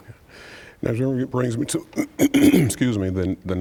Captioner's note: clearing throat